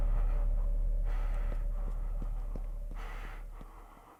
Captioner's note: footsteps pattering; Skull-Faced Assailant panting